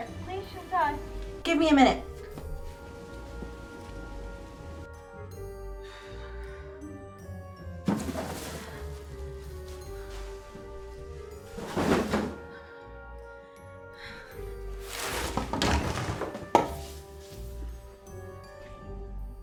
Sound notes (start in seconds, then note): 3.4 gentle music continues; 7.9 plastic ruffling; 14.8 objects thumping